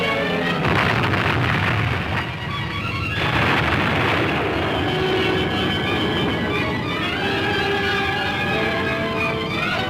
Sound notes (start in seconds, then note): 0.6 explosion booms